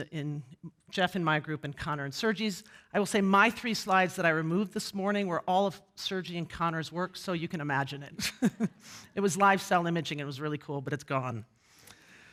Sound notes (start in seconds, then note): 8.7 laughs